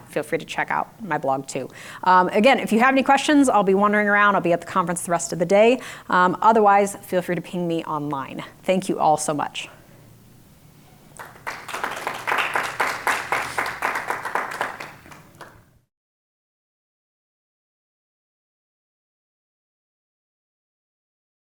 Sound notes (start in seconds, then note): 11.1 applause